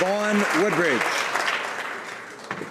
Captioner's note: applause